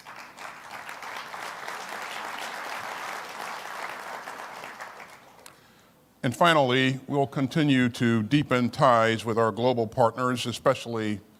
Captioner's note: applause